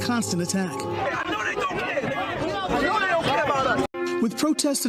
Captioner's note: protestors clamoring